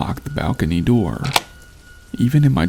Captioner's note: door lock